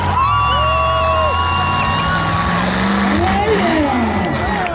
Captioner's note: engine revs